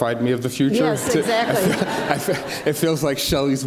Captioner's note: audience laughs